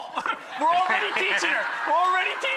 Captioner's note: laughs